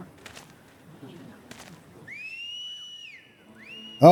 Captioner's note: whistling